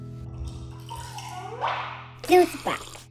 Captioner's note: liquid sloshing